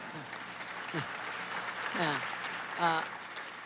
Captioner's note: laughter and applause